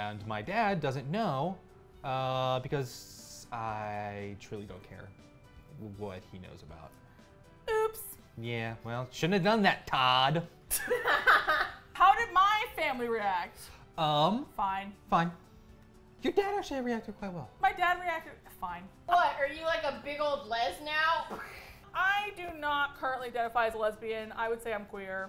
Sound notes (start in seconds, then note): 10.7 laugh